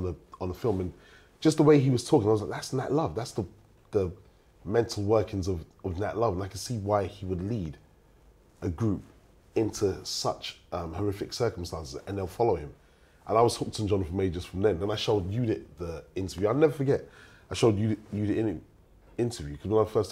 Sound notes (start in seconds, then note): none